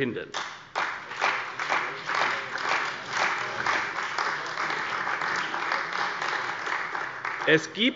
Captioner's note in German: Beifall bei der CDU und dem BÜNDNIS 90/DIE GRÜNEN